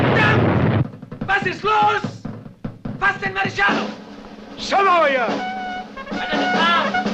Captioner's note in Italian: esplosione